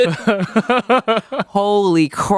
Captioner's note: laughs